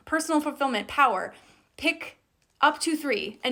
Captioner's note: none